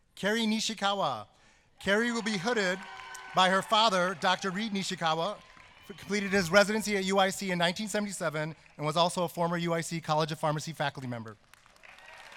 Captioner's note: applause